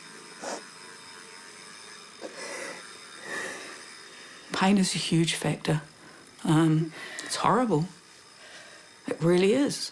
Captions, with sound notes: (SNIFFS) (BREATHES HEAVILY) 'Pain is a huge factor. 'It's horrible. It really is,